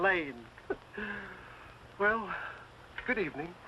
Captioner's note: chuckles